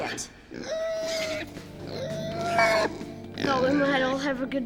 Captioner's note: pig squeals